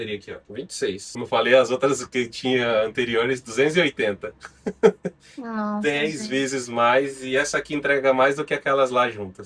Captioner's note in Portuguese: risadas